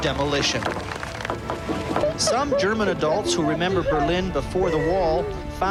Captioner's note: rock hammers cement